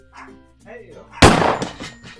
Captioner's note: gunshot